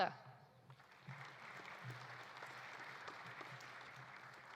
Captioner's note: audience applauding